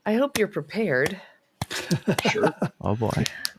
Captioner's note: laughter